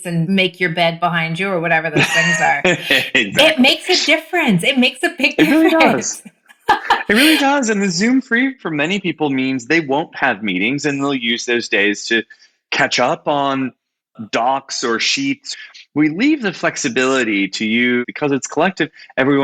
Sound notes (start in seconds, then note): 1.9 laughs; 5.1 laughs